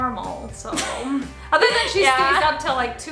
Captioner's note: laughs